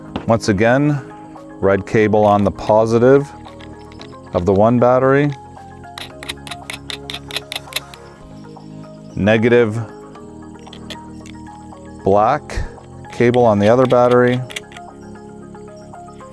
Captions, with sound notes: Once again, red cable on the positive of the one battery. (screw spins) Negative, black cable on the other battery.